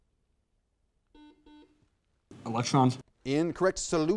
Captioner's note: buzzer sounds